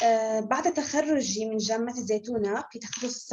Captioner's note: non-english speech